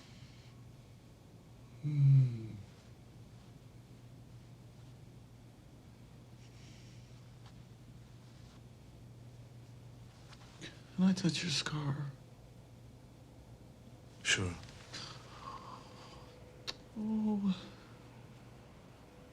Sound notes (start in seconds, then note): 1.8 moans